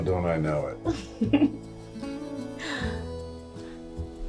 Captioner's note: Giuliana giggles